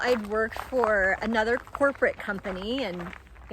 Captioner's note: none